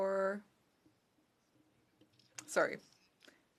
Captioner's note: speaking French